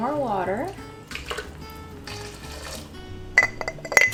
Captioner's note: water sloshing; glass clinking